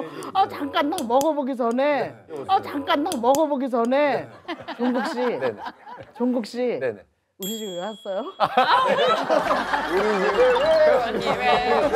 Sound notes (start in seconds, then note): 3.0 tapping